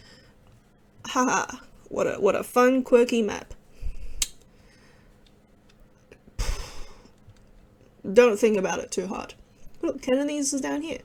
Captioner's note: exhale